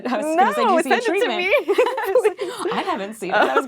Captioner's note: laughing